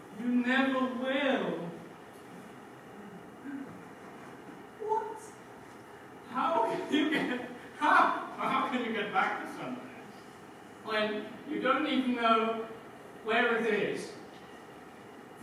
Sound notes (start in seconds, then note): 6.4 laughing